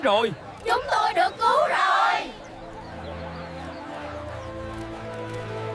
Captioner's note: voices of joy and drums in the distance